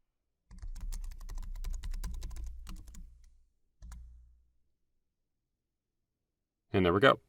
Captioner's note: keyboard typing